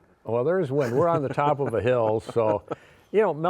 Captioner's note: laughing